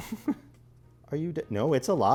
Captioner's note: laughs